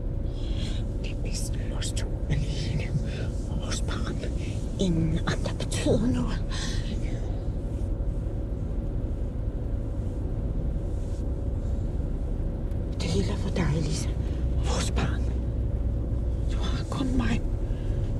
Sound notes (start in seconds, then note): none